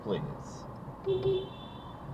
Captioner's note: beepbeep